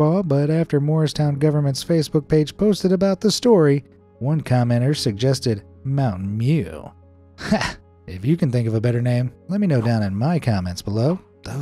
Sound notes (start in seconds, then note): 9.6 scoffs